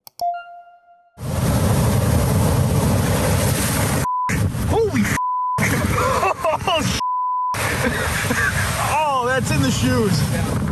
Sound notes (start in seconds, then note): 0.1 beep; 1.2 waves crashing; 5.2 beep; 5.6 laughing; 7.0 beep